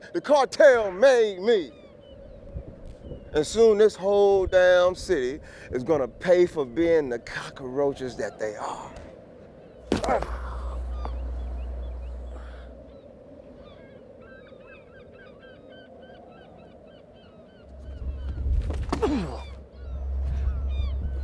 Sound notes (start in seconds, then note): 9.9 fist whacks; 9.9 groans; 19.1 kick thudding; 21.0 gulls shrieking; 21.0 wind whistling